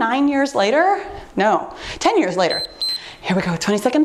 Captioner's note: timer beeps